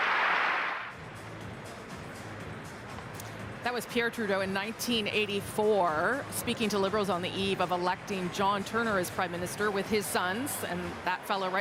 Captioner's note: cheering and applause